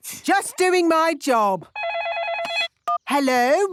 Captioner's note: phone ringing